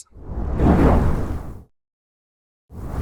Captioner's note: whoosh